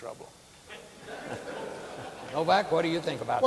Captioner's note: audience laughing